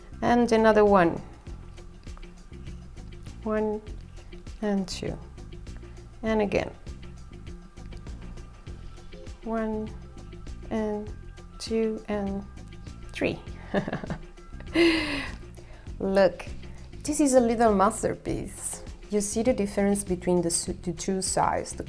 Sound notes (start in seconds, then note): 13.6 chuckle